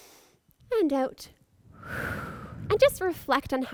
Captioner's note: exhales